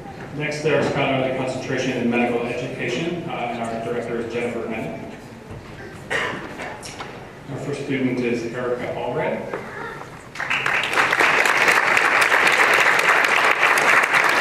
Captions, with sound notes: Next, there's Scholarly Concentration in Medical Education and our director is Jennifer Bennett, and our first student is Erika Allred. [applause]